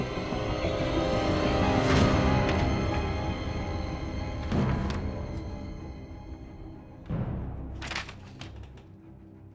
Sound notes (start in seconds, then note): 0.2 dramatic music; 4.5 pages flipping